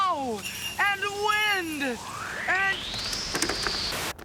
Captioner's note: wind gusts